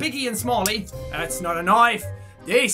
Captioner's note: Half-Bad Crocodile Dundee Accent